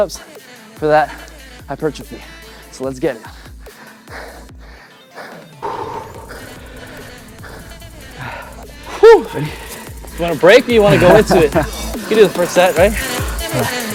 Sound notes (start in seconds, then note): 3.5 both men panting; 10.7 laughs